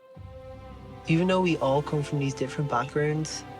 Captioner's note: voice-over